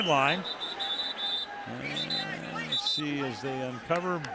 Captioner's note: whistle